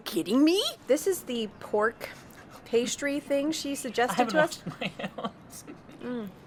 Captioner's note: laughs